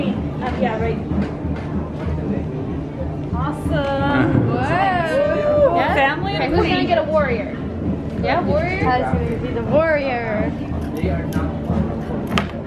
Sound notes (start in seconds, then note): 5.0 family cheer